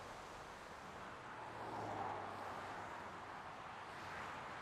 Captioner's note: traffic rumbling